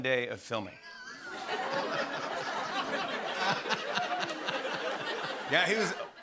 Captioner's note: laughter